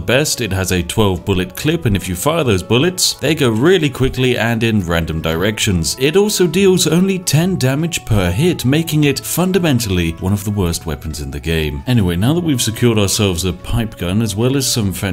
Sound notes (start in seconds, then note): none